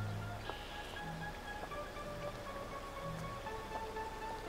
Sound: birds singing

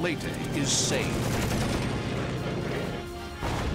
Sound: rapid gunfire

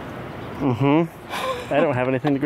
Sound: sarcastically; laughs

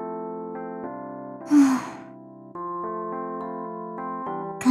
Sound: sigh

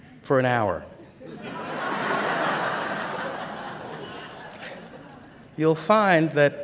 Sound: laughter

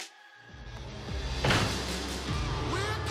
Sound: door slamming

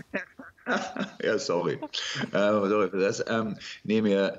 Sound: laughing

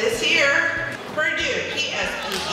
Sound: ^applause^

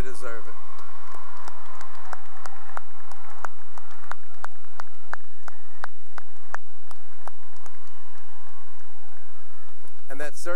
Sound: cheering and applause

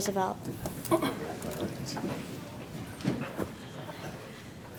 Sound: murmurs

